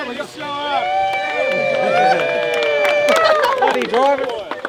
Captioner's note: crowd cheers